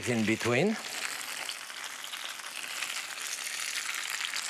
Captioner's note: sizzling